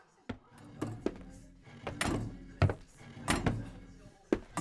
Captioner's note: metal object drags, clanks; door opens